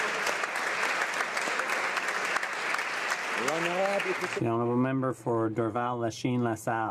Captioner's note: some Applause